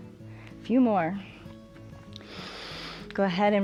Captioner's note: inhales